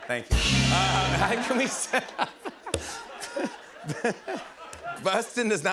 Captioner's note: rimshot; laughing